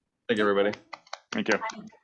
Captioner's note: applauding